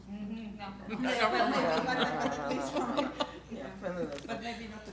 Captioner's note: laughter